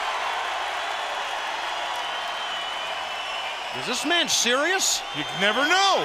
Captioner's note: crowd cheering